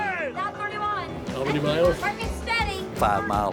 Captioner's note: scattered yelling